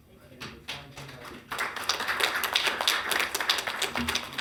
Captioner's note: council applauds